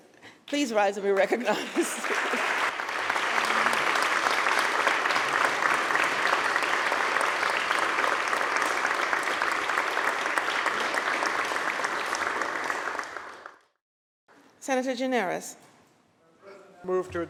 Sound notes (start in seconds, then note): 3.3 applause